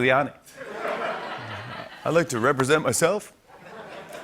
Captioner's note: laughter; laughter